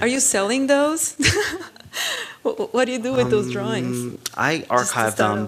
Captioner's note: laugh